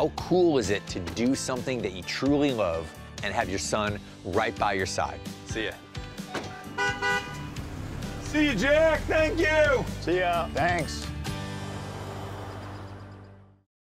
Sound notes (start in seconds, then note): 6.3 beeps horn twice